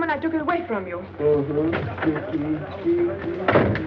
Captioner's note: humming